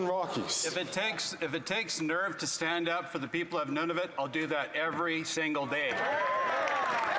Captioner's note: some Applause